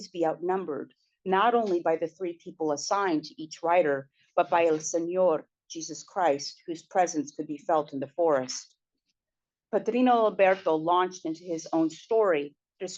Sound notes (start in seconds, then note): 4.8 spanish